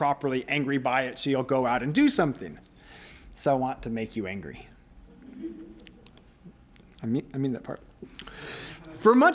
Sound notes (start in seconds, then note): 5.2 laughter